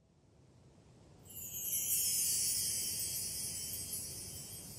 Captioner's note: chimes